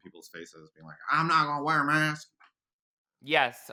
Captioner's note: southern accent